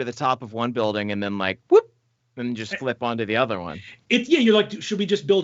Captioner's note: beeps